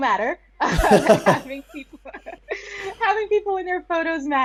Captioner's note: both laughing